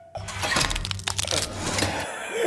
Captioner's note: death rattle